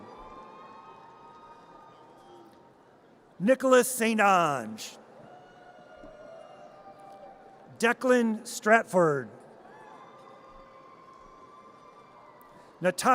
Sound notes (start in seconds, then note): 0.0 audience cheers; 5.2 audience cheers; 9.6 audience cheers